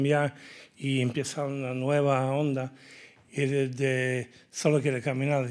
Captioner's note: speaking in Spanish